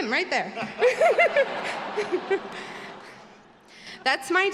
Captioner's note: all laughing